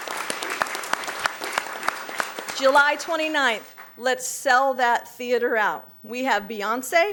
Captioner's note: applause